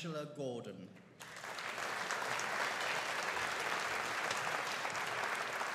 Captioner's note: audience applauding